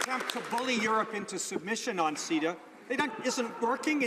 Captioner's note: some Applause